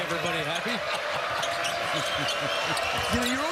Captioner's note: laughter